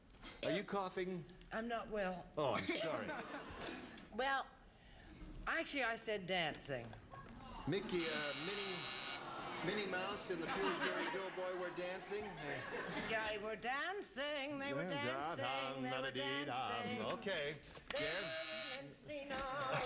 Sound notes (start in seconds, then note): 7.9 buzzer